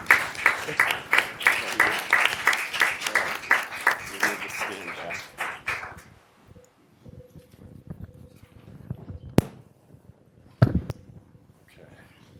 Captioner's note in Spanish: Aplausos